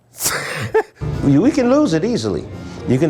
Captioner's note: laughs